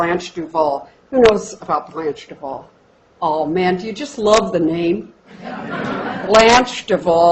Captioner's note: laughter